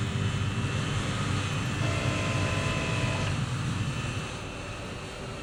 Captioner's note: none